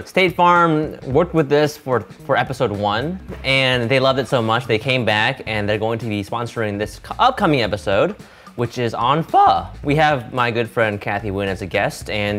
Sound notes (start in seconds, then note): none